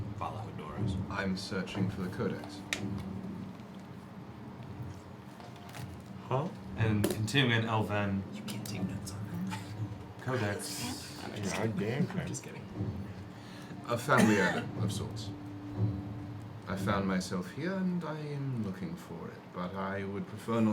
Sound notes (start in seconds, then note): 8.7 whispering